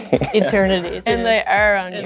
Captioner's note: laughs